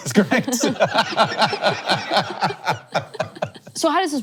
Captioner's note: all laughing